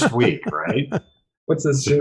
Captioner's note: laughter